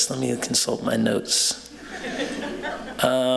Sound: laughter

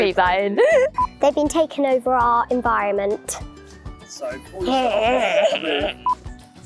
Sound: growly noises!

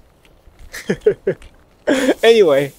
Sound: chuckles

